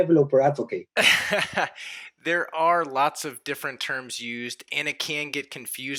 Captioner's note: chuckles